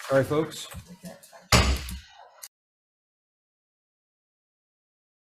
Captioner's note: gavel pounding